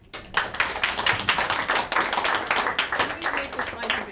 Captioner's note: applauding